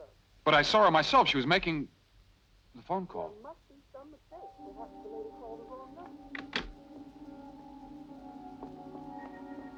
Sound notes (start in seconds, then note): 6.3 phone clicks